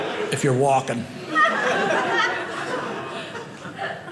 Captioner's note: audience laughing